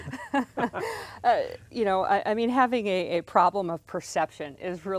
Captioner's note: laughs